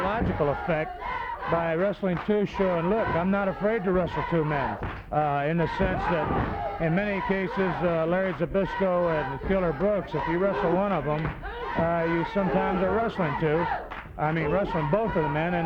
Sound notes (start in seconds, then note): 0.0 body thudding; 5.0 footsteps plodding; 5.3 wrestlers grunting; 13.4 blows thudding; 13.4 wrestlers grunting